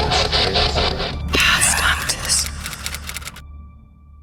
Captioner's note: voiceover